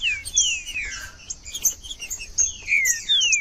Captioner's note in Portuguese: trinca ferro cantando